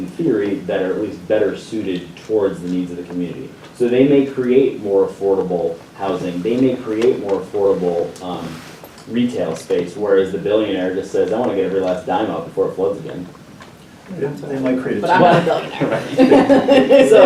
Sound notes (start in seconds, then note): 15.1 laughter